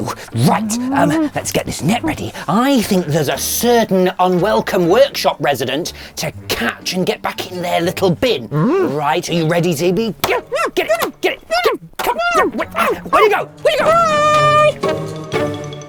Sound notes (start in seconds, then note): 0.0 whimpers; 10.8 squeals